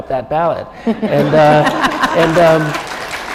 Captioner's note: laughter